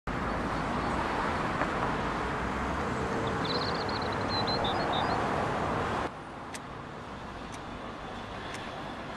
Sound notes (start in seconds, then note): 0.0 street noise; 2.8 birds tweeting